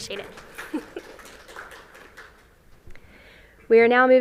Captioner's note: applause